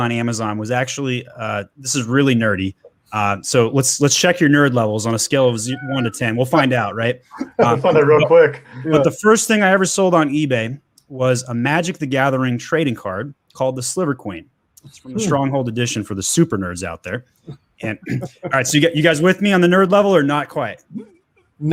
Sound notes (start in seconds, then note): 17.8 chuckles